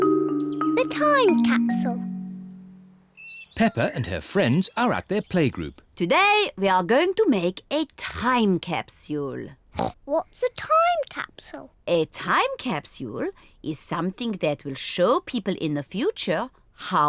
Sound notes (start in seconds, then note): 9.7 oinks